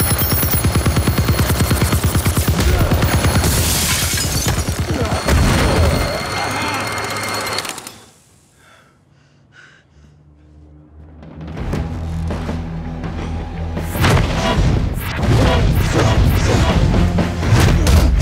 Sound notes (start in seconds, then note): 11.9 dramatic suspense music; 11.9 fighters grunting